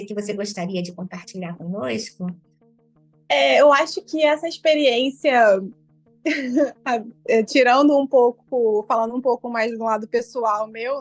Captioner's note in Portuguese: risos